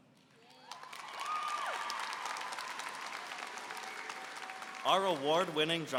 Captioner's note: applause and cheering